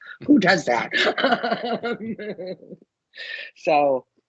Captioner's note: laughing